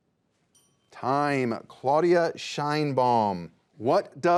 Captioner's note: bell dings